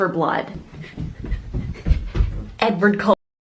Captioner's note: panting